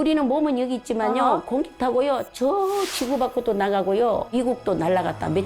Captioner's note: atmosphere-piercing sound effect